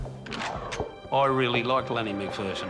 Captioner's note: gun cocks